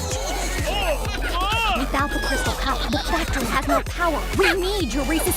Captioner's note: murmurs